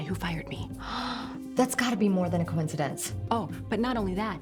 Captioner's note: gasps